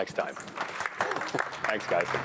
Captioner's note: applause